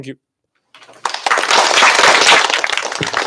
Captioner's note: applause